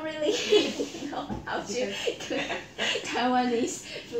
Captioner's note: laugh